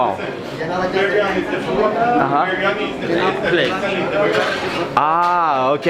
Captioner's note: speaking in foreign language